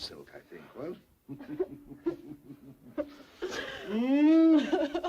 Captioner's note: Mary sobs